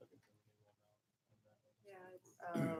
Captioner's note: people chattering